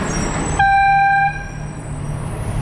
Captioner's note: airhorn